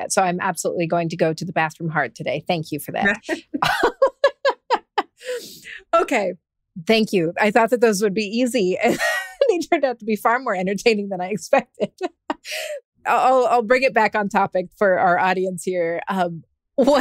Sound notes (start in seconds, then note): 3.1 laughs; 8.8 laughs